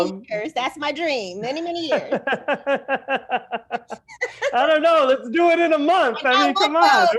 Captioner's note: laughter